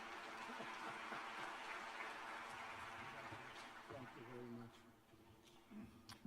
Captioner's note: applause